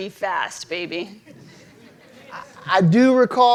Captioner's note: audience laughing